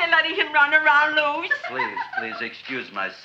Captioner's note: Audrey laughs